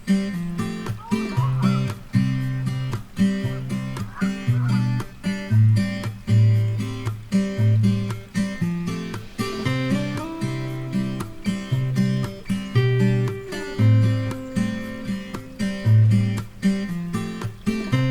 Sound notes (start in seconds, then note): 0.6 canada Geese honking